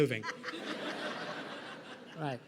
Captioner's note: laughter